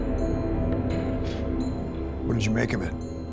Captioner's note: blows